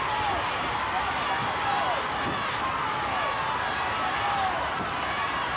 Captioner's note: audience cheering continues